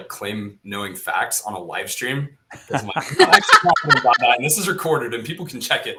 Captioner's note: laughing